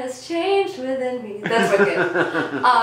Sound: laughing off-camera

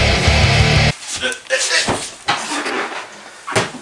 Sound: sounds of falling

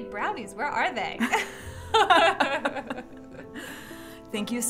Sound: both laughing

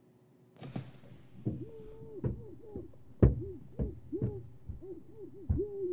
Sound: muffled shouting and pounding

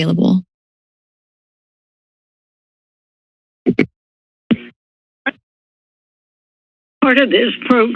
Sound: silence

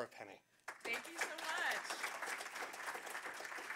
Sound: applause

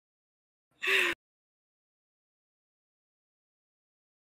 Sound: laughs

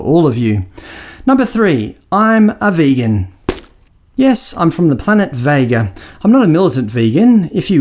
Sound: audible thump

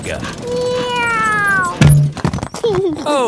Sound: george imitates airplane; george giggles

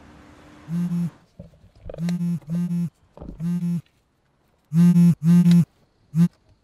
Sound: phone vibrating

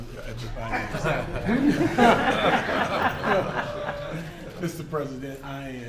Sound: laughter

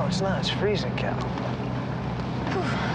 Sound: sighs

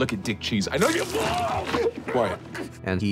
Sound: screaming

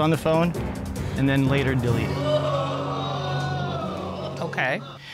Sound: audience exclaims

